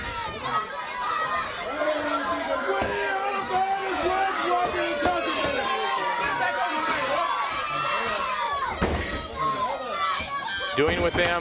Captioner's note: crowd chatter